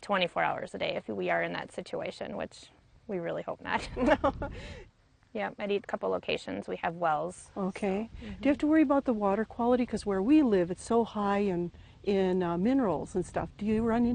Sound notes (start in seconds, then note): 3.8 laughs